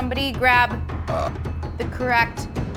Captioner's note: burp